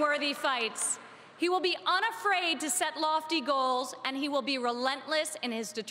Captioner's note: cheering and Applause